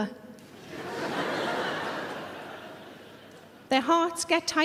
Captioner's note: audience laughing